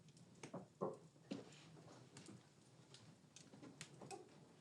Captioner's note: light knocking